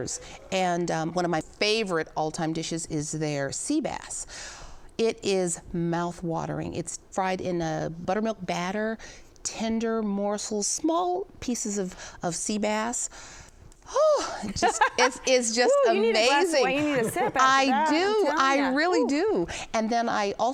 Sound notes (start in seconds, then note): 12.8 sighs deeply; 14.3 laughs